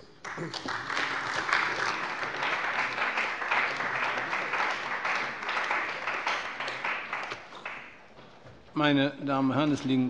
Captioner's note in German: Beifall bei der CDU und dem BÜNDNIS 90/DIE GRÜNEN